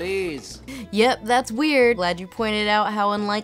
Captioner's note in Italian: voce fuori campo